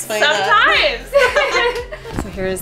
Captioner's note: girls laugh